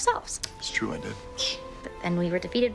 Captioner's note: Arthur hushes